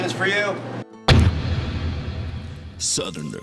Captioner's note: dramatic thud